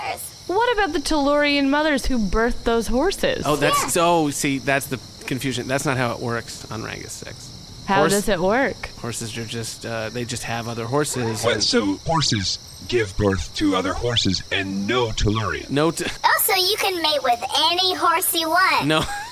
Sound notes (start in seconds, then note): 14.9 Pleck laughs desperately; 18.8 still laughing